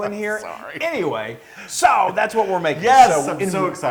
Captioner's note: laugh